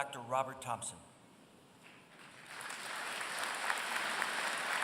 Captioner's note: applause